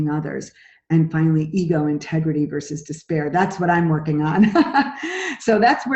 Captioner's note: laughs